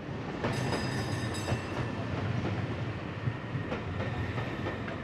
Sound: street sounds

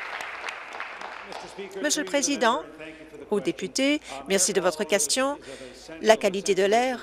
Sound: applause

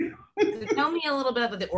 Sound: laughing

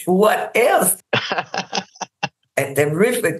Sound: laughs

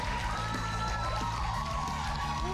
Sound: cheers and applause

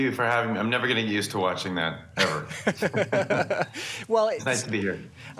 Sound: laughter

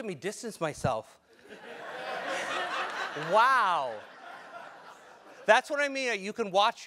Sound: laugh

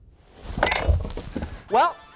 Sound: silence; thud!

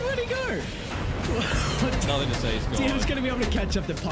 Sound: laughs

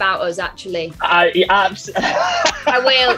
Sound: laughs

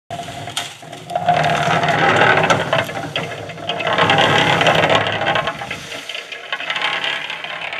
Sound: cement mixer noise

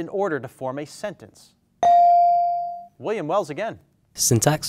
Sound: bell dings

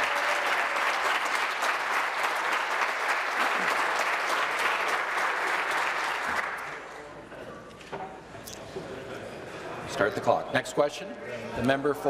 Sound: applause

